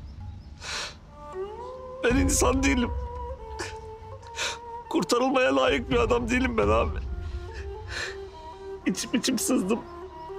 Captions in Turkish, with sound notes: Ben insan değilim. (Ağlama sesi) Kurtarılmaya layık bir adam değilim ben abi. İçip içip sızdım.